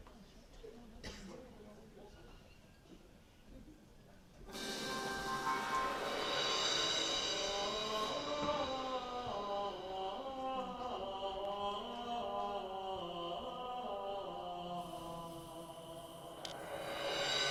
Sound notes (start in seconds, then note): 10.5 chanting